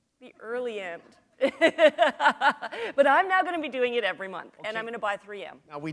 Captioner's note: chuckle